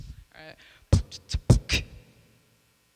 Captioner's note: beat boxing